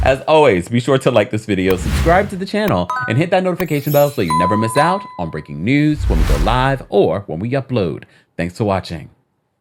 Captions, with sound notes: As always, be sure to like this video. Subscribe to the channel, (bell dinging) and hit that notification bell so you never miss out on breaking news, when we go live, or when we upload. Thanks for watching.